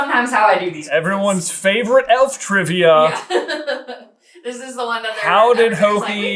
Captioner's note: laughing